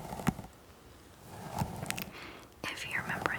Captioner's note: brushing